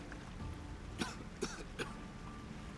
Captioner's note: coughs